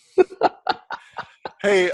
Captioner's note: laughs